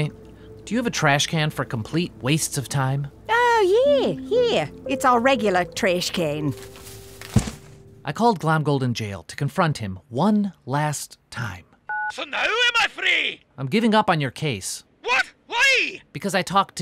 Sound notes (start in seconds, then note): 6.5 dropping files; 11.9 phone beeps